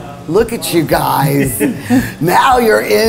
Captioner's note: laughing